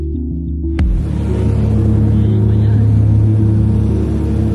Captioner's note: plane engine roaring